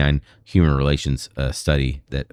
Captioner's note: uh